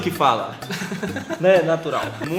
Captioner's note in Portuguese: Risos